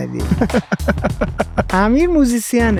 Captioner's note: laughs